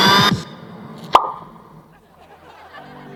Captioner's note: pop sound